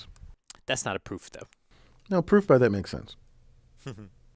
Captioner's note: laugh